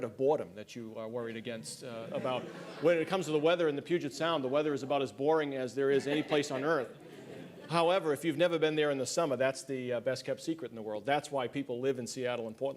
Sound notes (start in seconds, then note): 1.9 laughter; 7.4 laughter